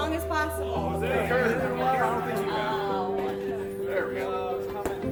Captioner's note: people chattering